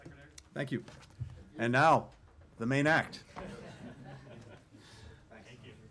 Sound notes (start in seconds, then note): 3.3 laughter